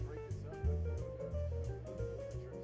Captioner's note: none